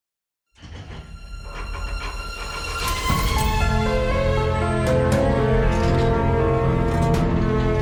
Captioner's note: mysterious music; wheel rattling